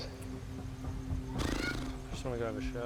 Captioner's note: lips sputter